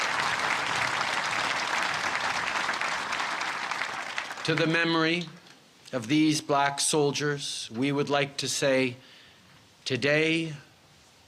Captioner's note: cheers and applause